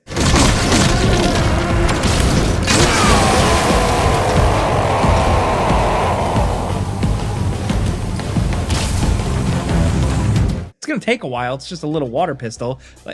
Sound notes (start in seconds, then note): 0.0 gun blasting; 0.1 dramatic music; 2.8 Man on Fire groaning